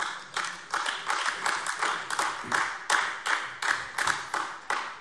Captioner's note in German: Beifall AfD